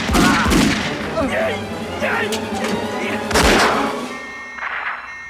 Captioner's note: groaning; beeping